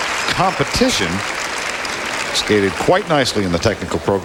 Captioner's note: crowd cheering